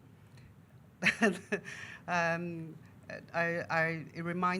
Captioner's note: laughing